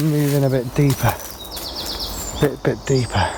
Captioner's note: leaves rustling; birds chirping